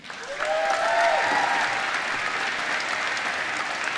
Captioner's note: applause